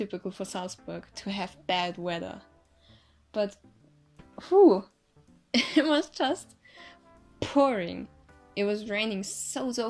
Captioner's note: breathing depply